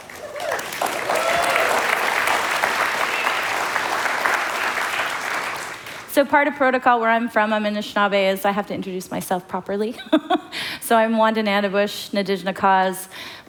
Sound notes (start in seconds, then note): 0.0 applause; 11.1 foreign language